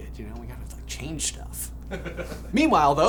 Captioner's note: laughs